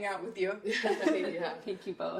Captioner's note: laughter